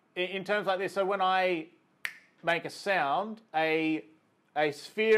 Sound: clicks fingers

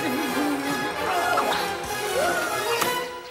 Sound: yells

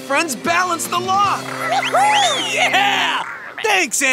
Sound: cheering

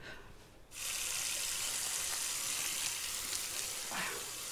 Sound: water running

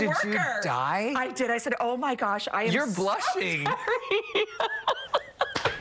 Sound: laughter

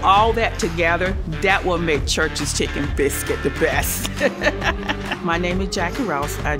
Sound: laughs

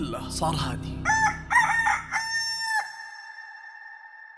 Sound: rooster crowing

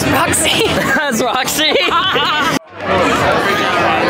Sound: laughs

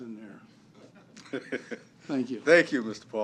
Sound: laughter

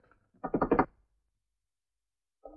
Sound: door knocks

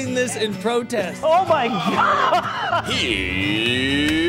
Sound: laughs

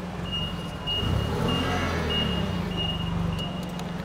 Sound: beeping

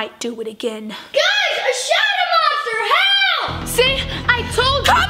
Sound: shouting

